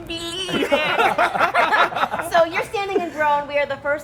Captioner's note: laughter